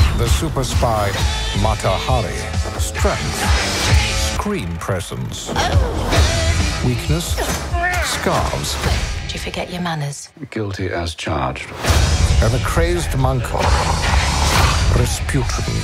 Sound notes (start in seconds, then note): 13.2 growling